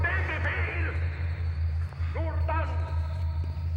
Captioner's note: speaking german